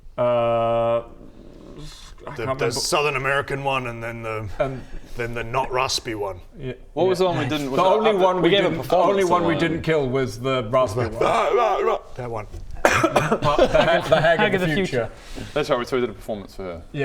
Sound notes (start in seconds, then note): 12.8 dies noisily